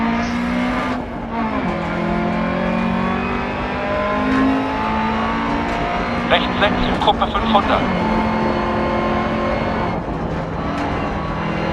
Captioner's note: engine sounds and co-pilot's instructions